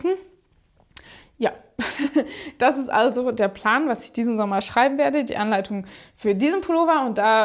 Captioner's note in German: gelächter